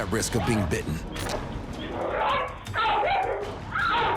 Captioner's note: barking and snarling